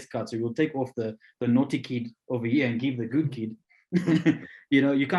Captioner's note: laughs